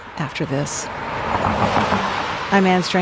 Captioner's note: car engine revving